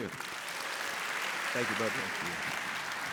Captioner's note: audience clapping